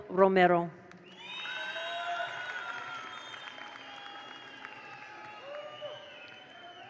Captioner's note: attendees cheer; attendees applaud